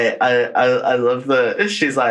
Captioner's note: laughs